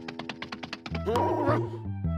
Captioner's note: grunts